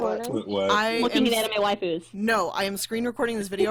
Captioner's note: background chattering